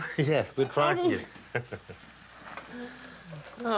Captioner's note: chuckles